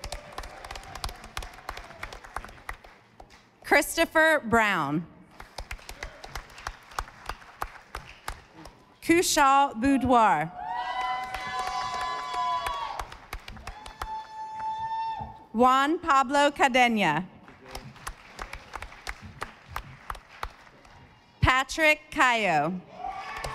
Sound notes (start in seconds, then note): 0.0 audience applauding; 5.3 audience applauding; 10.9 audience applauding; 17.4 audience applauding; 23.2 audience applauding